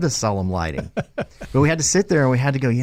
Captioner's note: chuckling